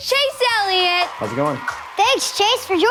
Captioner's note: audience cheering